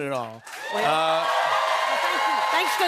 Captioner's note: cheers and applause